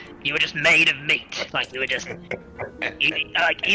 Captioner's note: chuckles